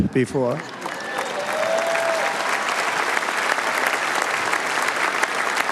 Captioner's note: cheers and applause